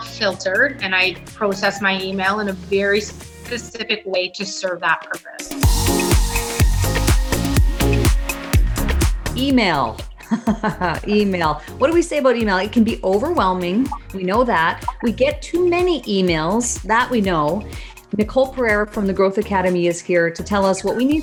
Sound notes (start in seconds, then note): 5.1 digital music; 10.2 laughs